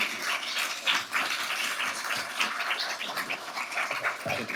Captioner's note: audience applauding